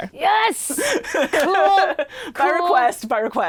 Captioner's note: laughs